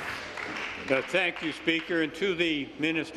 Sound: applause

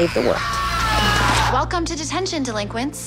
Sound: screa m

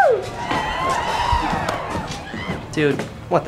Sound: distant cheers

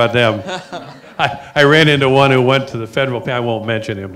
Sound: laughs

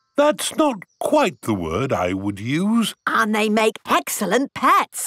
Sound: none

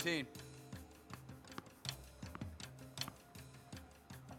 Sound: ball bouncing

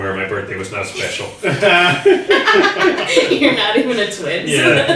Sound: everyone laughing

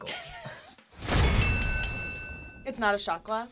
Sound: React laughs; bell rings

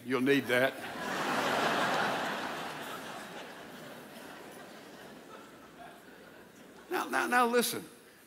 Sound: audience laughs

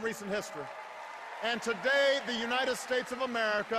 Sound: cheers

